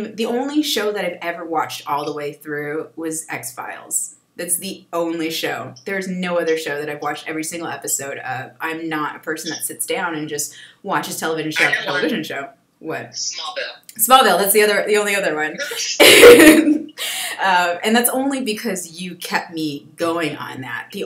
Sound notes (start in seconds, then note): 15.5 laughs